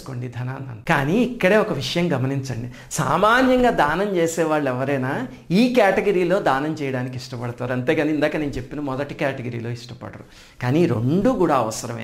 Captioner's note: confidentially